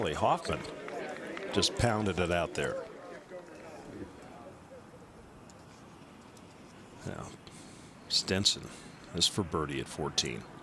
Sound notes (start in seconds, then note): 0.0 applause